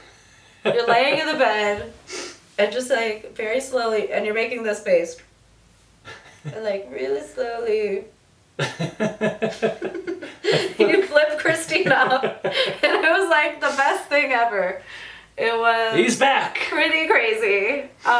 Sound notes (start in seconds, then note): 8.6 both laughing